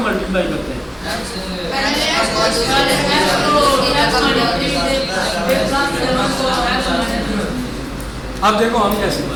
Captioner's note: students responding